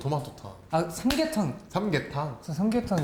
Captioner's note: clap